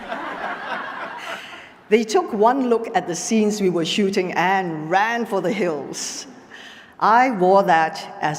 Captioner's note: laughter